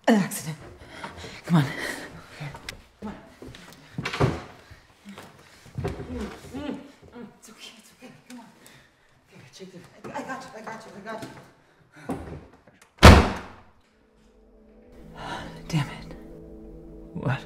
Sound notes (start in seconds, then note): 5.8 Caleb groaning; 13.0 door slamming